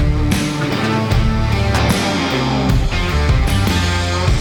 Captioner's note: metal clangs